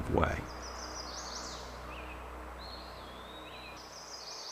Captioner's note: birds chirping